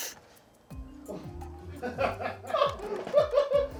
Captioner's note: crew laughs